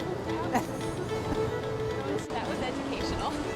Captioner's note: laughs